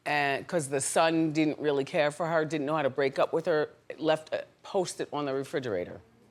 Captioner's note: none